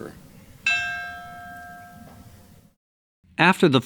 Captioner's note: bell rings